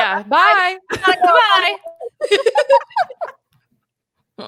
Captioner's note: both laugh